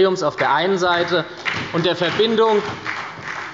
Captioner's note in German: Beifall bei der SPD